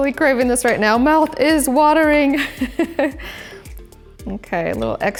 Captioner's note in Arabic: يضحك